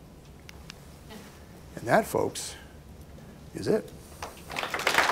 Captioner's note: applause